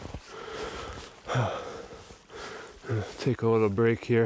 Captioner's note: exhales